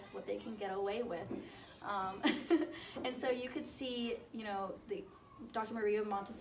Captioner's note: laughs